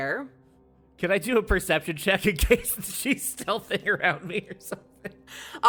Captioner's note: laughs